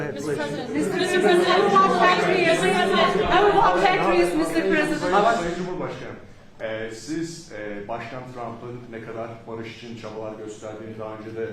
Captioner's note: speaking Turkish